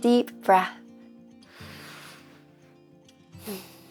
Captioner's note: inhale; exhale